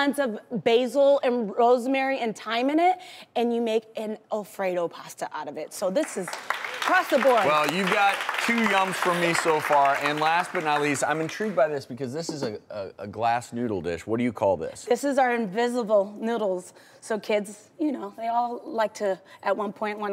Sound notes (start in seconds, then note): 6.0 audience claps